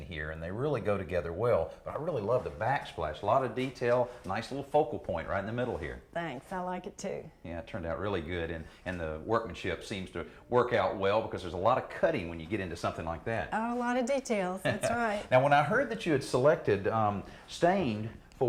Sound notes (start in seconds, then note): 14.0 laughing